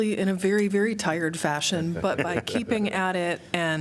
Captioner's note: laughter